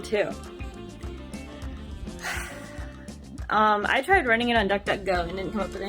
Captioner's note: sigh